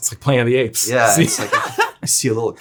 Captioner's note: laughs